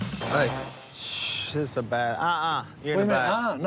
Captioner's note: Willie exhales